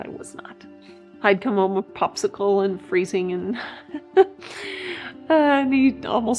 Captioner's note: laughs